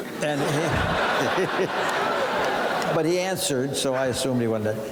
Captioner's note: audience laughing